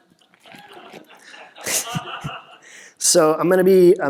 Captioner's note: laughter